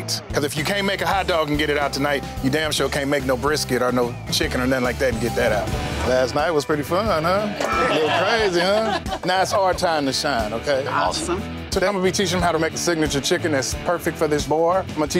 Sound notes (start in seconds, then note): 7.6 everyone laughs